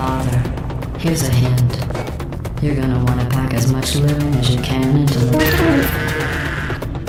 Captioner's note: mechanical scream